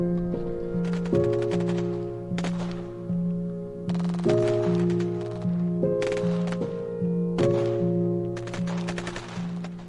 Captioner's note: continuous dramatic music; gunfire from machine gun in the distance